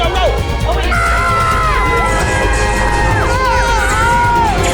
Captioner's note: group screaming